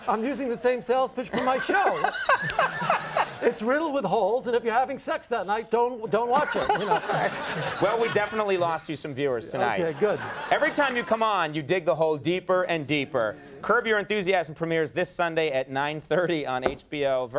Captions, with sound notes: I'm using the same sales pitch for my show. It's riddled with holes, and if you're having sex that night, don't watch it, you know. (Conan and audience laugh) Well, we definitely lost you some viewers tonight. Okay, good. Every time you come on you dig the hole deeper and deeper. Curb Your Enthusiasm premieres this Sunday at 9.30 on HBO.